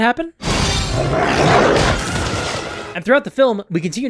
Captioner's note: growl